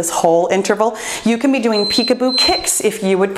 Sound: timer beeps

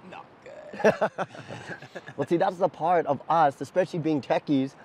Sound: laughs

